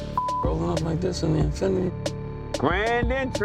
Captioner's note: beep